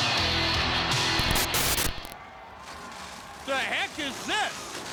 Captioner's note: static hisses